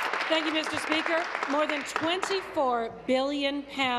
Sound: applause

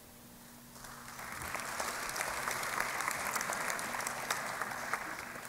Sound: applause

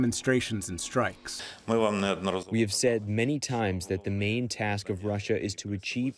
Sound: through translator

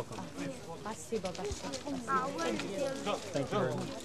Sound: non-english speech

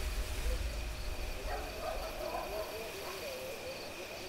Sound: dogs barking; crickets chirping

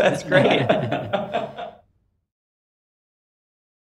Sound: laughs

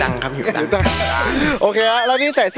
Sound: laughs

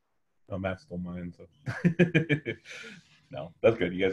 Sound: laughs

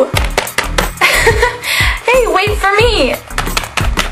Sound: laughs

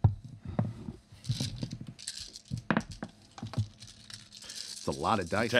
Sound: dice rattling

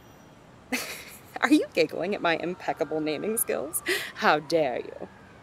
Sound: joking tone

